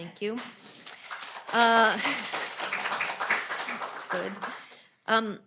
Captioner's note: attendees applauding